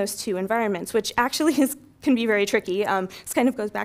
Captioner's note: laugh